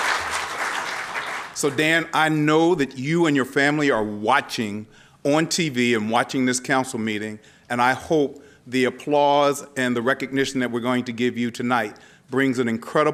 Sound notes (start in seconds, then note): 0.0 applause